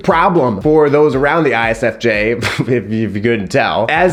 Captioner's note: scoffs